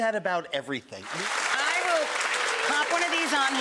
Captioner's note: audience clapping